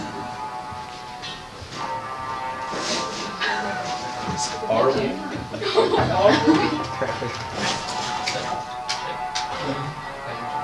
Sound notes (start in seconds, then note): 4.7 voice from audience; 5.5 laughter